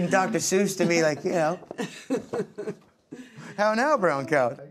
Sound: laughs

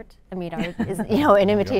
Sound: laughter

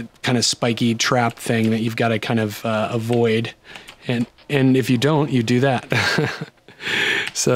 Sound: laughter

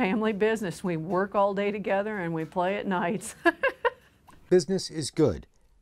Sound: laughs

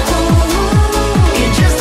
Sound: ooh, ooh, ooh

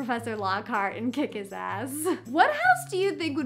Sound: chuckles

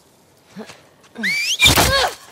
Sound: whistle!!!

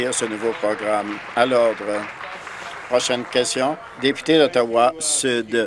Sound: applause

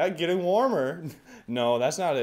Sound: exhale

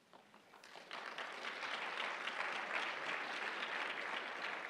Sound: applause

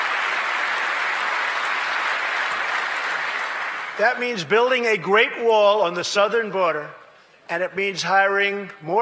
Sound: applause

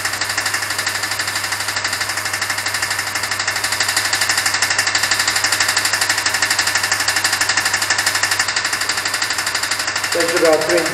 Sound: pump making a clacking noise

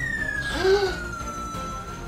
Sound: gasps

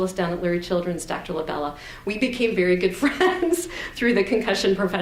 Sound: laughs

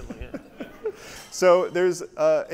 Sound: audience laughs

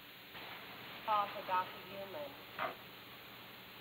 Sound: paging doctor over speaker

